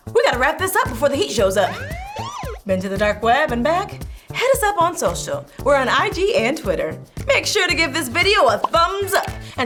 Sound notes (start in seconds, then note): 1.6 sirens wailing